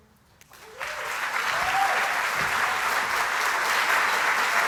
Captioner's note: applause